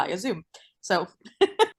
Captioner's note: laughs